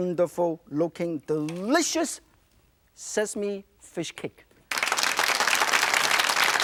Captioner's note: audience applauding